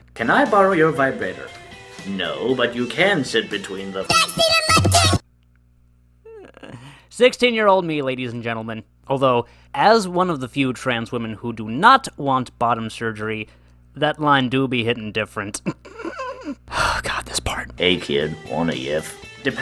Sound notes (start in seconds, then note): 4.0 chipmunked; 15.7 laughs